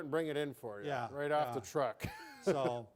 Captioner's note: laughing